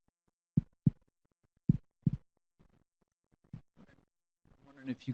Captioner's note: thumping